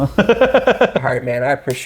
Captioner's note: laughing